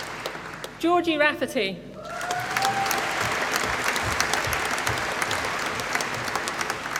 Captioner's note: applause